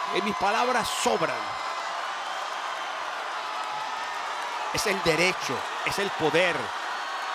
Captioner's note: applause